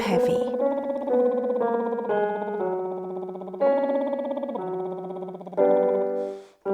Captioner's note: piano scales continue; lips trilling